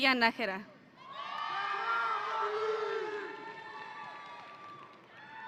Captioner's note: audience cheering